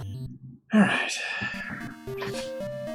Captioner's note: sighing